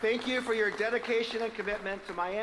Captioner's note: applause